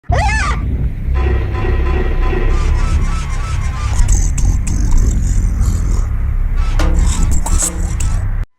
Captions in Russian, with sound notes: ААААА! *шаг шаг шаг шаг* *скрип* КТО ТУТ УРОНИЛ МЫЛО? ЖОПУ К ОСМОТРУ